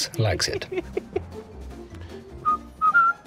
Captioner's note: laughs